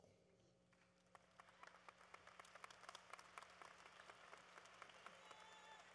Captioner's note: applause